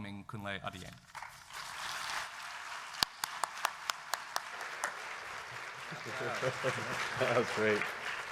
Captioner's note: applause